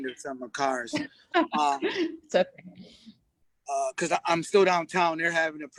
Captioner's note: laughs